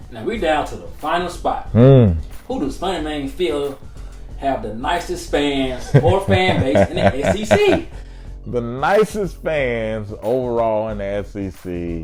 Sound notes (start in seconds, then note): 5.8 laughing